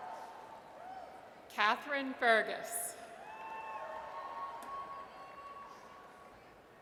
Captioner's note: audience cheers; audience cheers